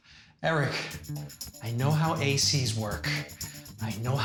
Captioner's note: panting